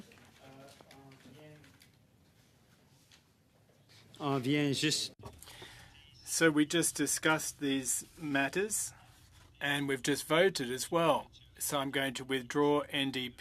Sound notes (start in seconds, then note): 8.9 speaking french